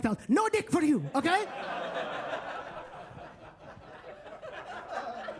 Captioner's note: attendees laughing